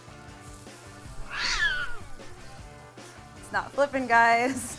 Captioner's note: cat hisses